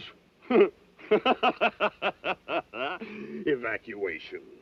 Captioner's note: laughing